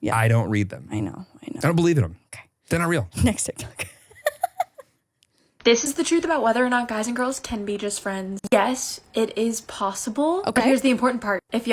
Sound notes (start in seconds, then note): 3.8 laughs